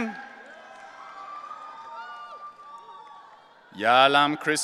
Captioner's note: audience cheering